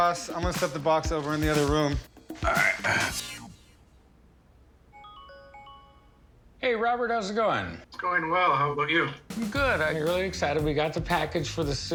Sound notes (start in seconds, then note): 4.9 computer jingles